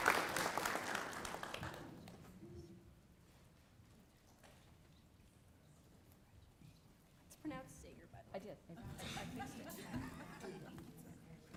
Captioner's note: applause